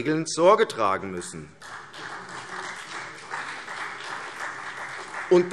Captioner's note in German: Beifall CDU